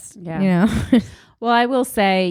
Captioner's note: chuckles